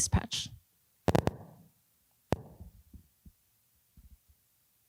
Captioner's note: intermittent clicks